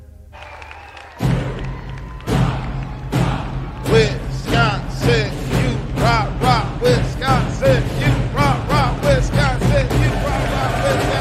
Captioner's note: applause